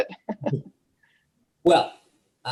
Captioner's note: chuckles